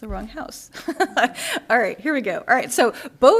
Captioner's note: laughter